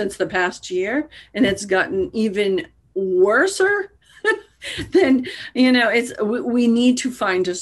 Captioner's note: laughing